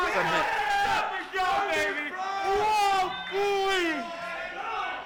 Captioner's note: crowd jeering